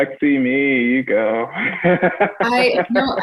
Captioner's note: laughs